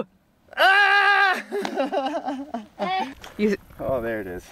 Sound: laughs

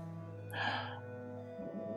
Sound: sighs

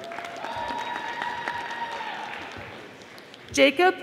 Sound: audience applauding

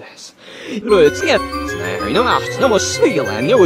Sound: Junior speaking backwards; dramatic music

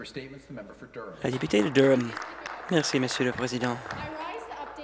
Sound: applause

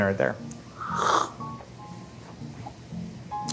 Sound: slurping

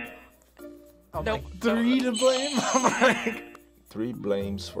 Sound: buzzer; laughs; buzzer

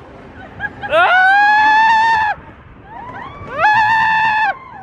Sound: screams

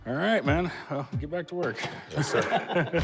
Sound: laughing

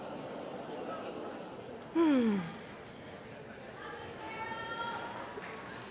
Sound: sighs

